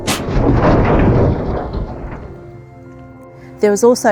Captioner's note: gate falling and crashing